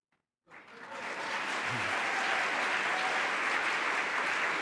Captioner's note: applause